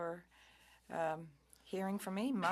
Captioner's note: speaking French